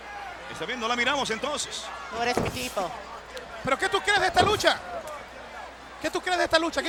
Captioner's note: commentators and Chyna speaking Spanish